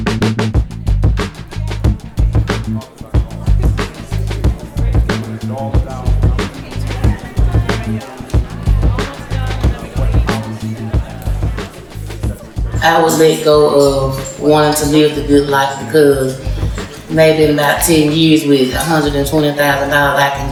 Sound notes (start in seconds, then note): 0.2 light hip-hop music; 11.6 laughing